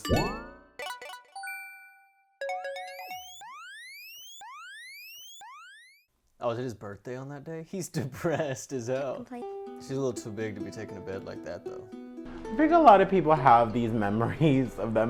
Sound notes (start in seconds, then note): 0.1 bouncing; 0.8 tinkling; 2.8 siren blaring